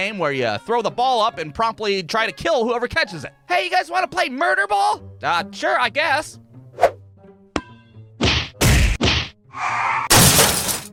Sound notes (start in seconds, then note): 6.6 fwoosh!; 7.5 bump!; 8.2 thwack!Thwack!Thwack!; 10.1 thud!